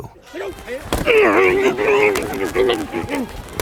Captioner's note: grunting